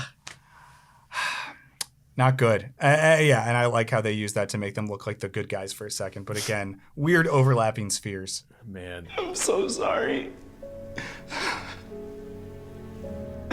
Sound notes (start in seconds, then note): 10.5 cries